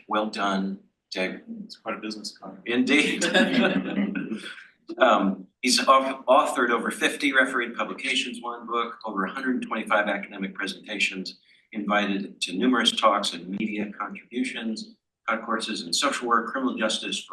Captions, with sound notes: Well done, David. - It's quite a business counter. - Indeed. (panel laughs) He's authored over 50 referee publications, one book, over 125 academic presentations, invited to numerous talks and media contributions, taught courses in social work, criminal justice,